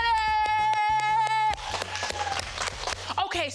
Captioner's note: claps; crowd claps and cheers